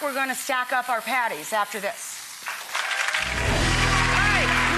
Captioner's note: audience applauds